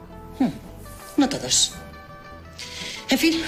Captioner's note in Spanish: sarcástica